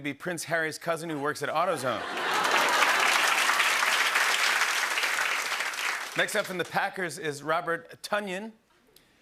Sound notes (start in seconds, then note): 1.7 laughter and applause